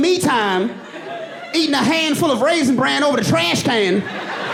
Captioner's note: audience laughing